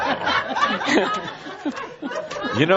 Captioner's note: laughter